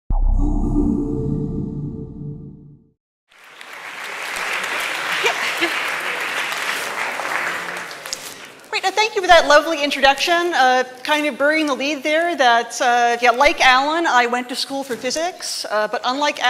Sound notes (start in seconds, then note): 3.3 applause